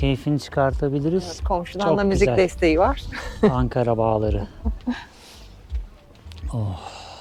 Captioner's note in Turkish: kahkaha